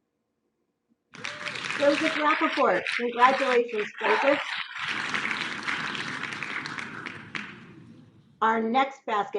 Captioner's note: clapping